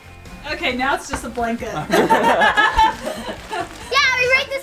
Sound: laughs

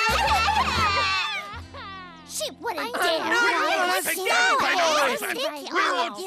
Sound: crying

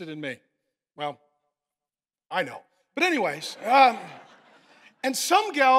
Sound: congregation laughing

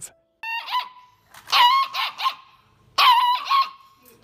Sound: screeching

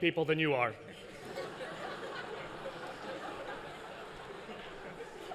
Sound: laughter

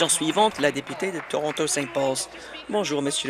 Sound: applause

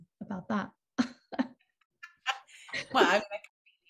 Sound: laughs

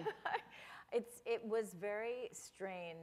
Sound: chuckle

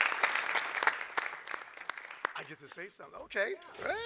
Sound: applause

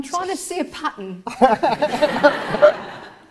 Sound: audience laughs

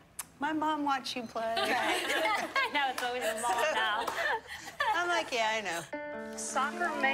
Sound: laughter

